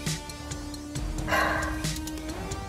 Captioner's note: Sighs